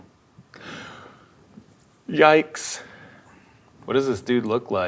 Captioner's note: inhales